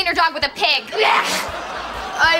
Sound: sneezing

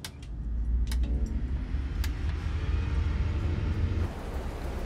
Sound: engine roaring

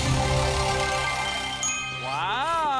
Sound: dinging

